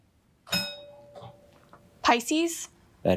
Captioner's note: bell rings